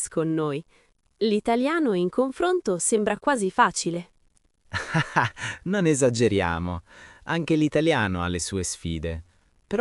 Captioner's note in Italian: risate